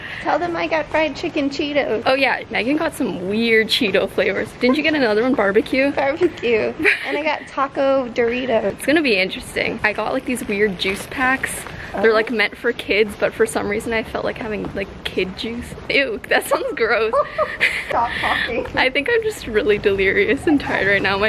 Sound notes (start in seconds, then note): 16.3 laughs